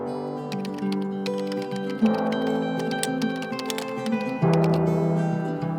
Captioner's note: pleasant music; keyboard keys tapping; pleasant music